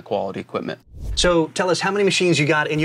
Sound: air swooshing

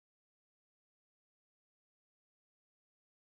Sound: none

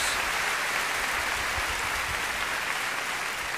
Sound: applause

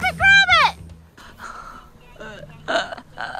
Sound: laughing

